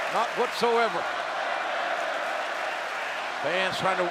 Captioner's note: crowd yelling